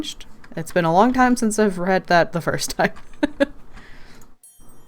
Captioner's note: laughs